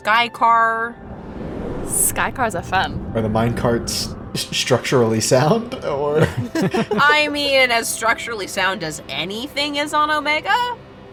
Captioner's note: chuckles